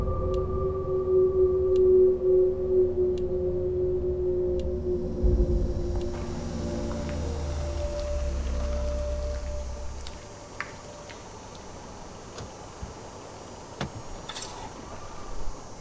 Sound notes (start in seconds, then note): 5.3 cicada screeching; 5.8 gravel crumbling; 13.8 doors unlatching